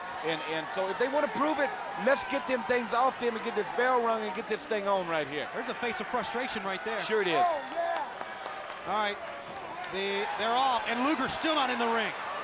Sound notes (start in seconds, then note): 7.0 applause